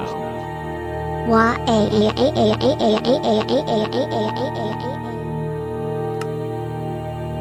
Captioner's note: crying